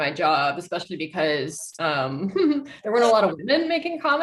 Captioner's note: chuckles